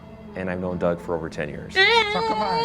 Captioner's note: crying